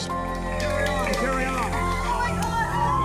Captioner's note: applause